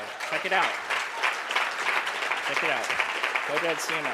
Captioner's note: audience applause